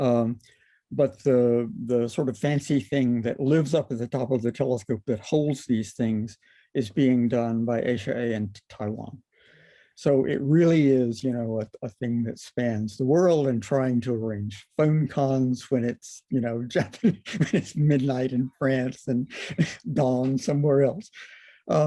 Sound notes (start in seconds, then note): 16.9 laughter